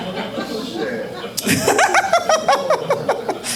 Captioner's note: all laughing